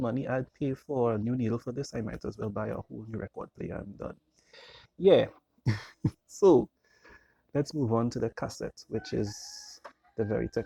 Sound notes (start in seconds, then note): 5.6 laughs